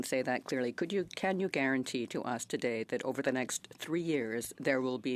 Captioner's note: speaking French